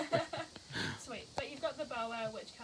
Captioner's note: laughing